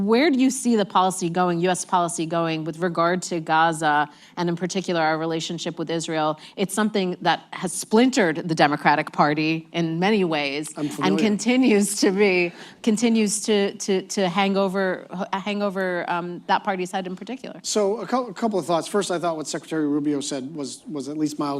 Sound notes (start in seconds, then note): 12.5 laughs